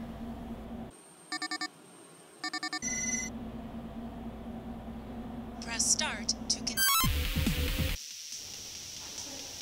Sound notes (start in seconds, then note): 1.3 phone line ringing; 1.3 phone rings; 6.7 video game sounds continue